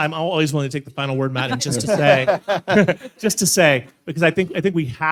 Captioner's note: laughs